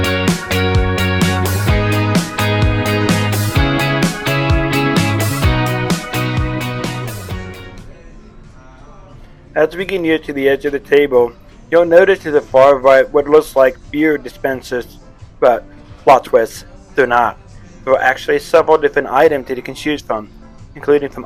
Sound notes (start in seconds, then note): 9.2 voiceover